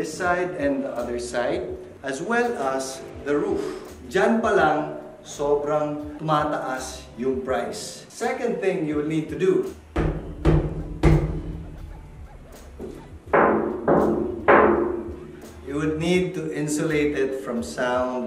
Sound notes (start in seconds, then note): 9.8 stomps; 12.6 knocks